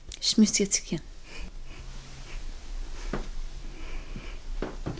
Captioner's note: woman speaks foreign language